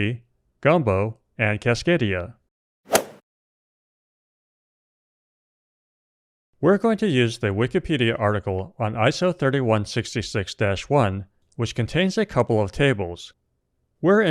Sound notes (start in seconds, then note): 2.8 golf swing sound effect